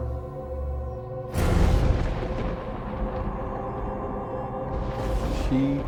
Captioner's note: ominous music; thunder crashing